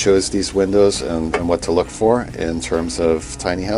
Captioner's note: metal clanks